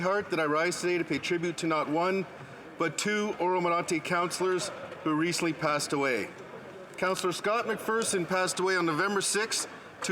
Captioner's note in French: voix de l'interprète